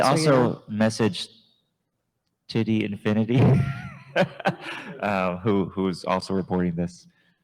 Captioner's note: chuckles